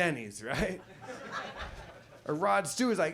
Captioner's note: audience laughs